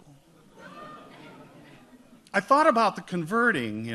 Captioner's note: audience laughs